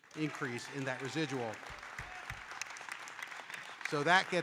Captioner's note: audience applauding